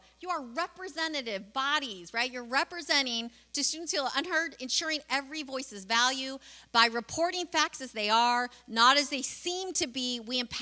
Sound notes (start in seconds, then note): none